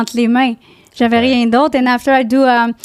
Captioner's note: in french